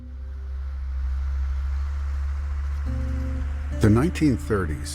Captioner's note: engine rumbles